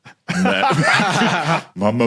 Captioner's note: laugh